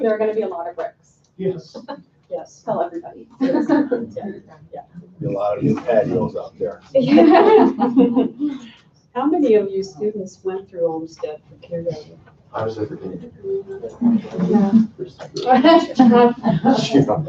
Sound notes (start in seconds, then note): 3.5 laughing; 6.9 laughing; 15.5 chattering